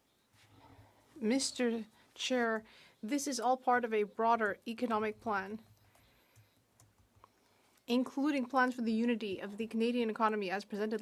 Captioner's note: speaking French